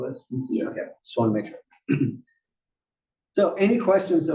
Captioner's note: cough